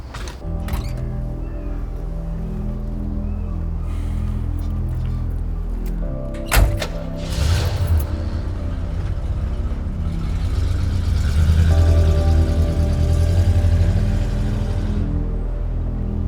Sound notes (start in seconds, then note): 1.3 gentle music; 6.2 car door thudding; 7.5 car engine revving; 10.8 gentle music